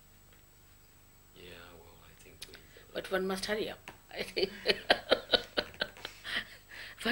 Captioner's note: shri mataji laughs